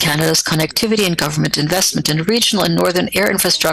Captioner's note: speaking French